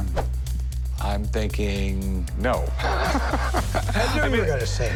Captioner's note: laughs